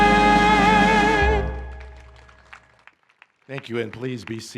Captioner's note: applause